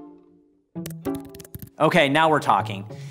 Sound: keyboard clicking

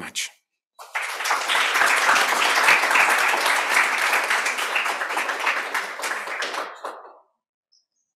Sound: applause

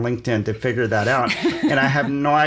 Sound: laughs

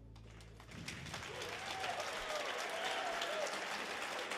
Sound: audience cheers

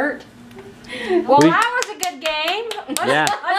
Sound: claps

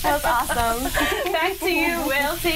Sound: speaking portuguese

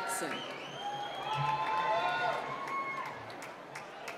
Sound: whistling

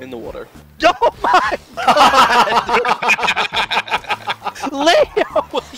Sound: group laughter

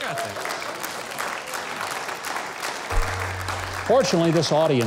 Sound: claps

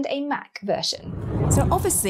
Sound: air whooshes

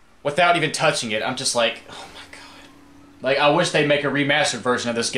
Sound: sigh

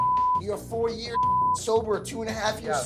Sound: beep

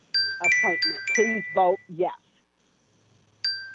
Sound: chime

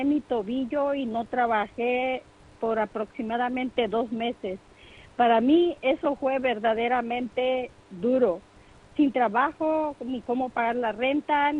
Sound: speaking in foreign language

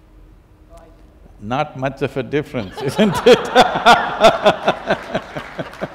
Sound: laughter/Applause

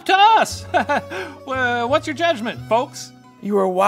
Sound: laughs

